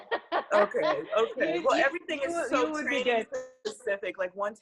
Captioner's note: laughs; audio blurs